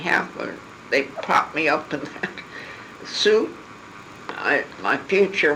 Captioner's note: laugh